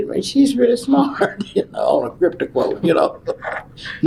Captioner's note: laughs